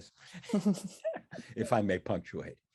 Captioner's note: laugh